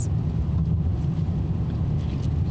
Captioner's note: engine rumbling